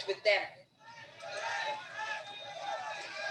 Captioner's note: cheering